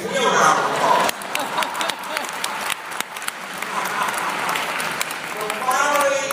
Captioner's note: applause